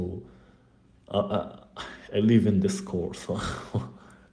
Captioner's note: risitas